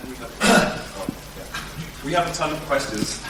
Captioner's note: audience member coughs